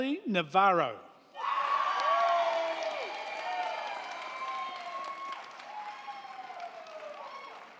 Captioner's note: crowd cheering; crowd clapping